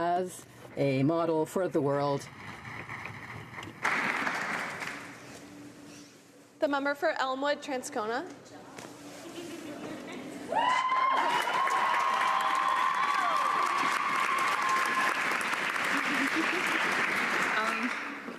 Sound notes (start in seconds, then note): 10.9 applause; 14.7 cheering and Applause